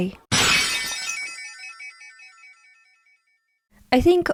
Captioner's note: shattered glass